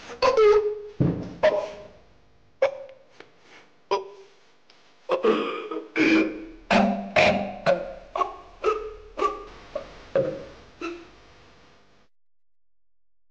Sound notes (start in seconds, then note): 0.3 groans; 5.1 chokes